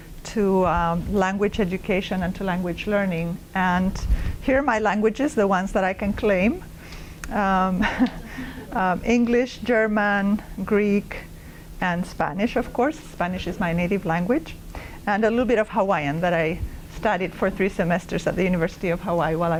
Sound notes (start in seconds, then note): 7.8 laugh